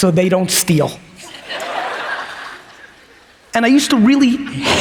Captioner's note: audience laughs